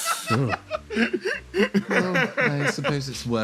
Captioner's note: laughs; laugh